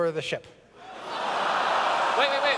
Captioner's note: laughter